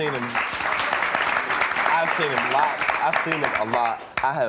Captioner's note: audience applauding